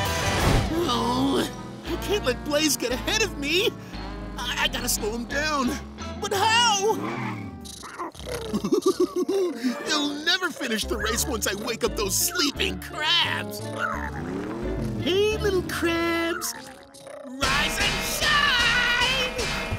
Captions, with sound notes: Oh, I can't let Blaze get ahead of me. I gotta slow him down! But how? [giggling] He'll never finish the race once I wake up those sleeping crabs! Hey little crabs! Rise and shine!